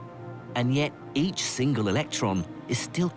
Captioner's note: voiceover